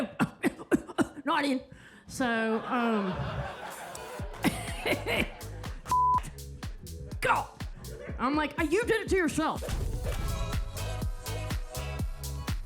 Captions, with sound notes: (audience laughs) Shit. God. I'm like, "You did it to yourself." (upbeat music)